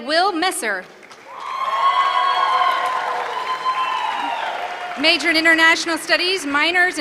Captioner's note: applause